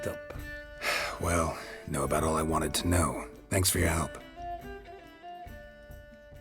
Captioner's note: sigh